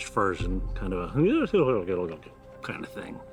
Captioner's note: imitates mumbling